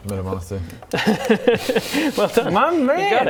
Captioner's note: "impressed" laugh